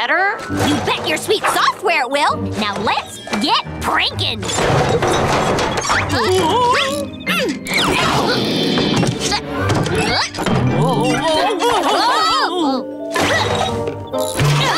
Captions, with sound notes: You bet your sweet software it will. Now let's get pranking. [groaning] [grunting] -Whoa whoa whoa! -Whoa!